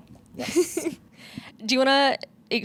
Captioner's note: laughs